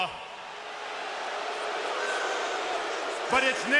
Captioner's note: audience booing